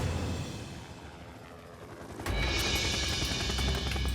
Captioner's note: helicopter hums